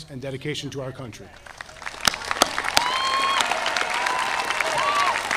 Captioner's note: audience applauding